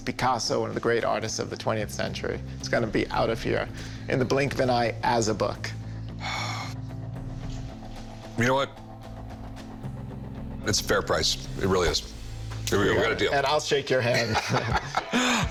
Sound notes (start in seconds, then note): 6.2 sighs; 14.1 laughing